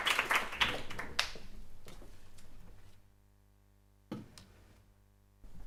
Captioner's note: applause